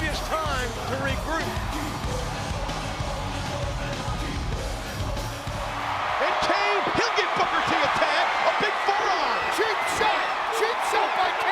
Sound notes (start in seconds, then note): 2.3 crowd cheering; 2.3 upbeat music